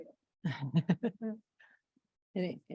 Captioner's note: laughter